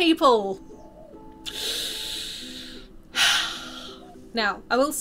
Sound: loud inhale and exhale

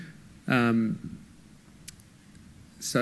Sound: pause

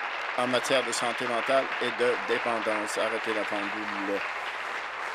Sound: applause

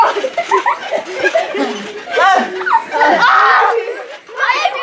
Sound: playful screaming

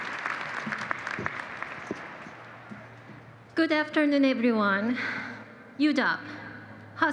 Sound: applause

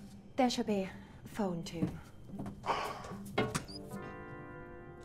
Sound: sighing

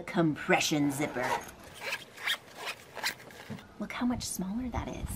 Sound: zipper zipping

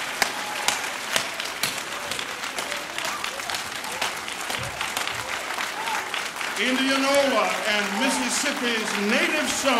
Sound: applause

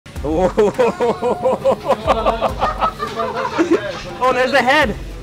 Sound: chuckles

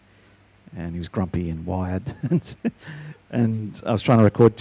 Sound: laughs

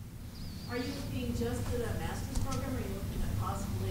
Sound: voiceover

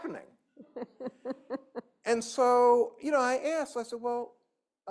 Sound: laughter

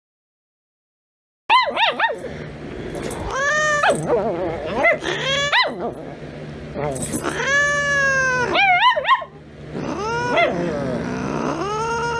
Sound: Caprice meowing and growling; Ella growling and barking

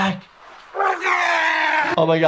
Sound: water sloshing; Frank groans and exclaims

